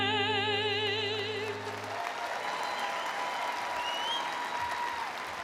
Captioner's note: audience applauding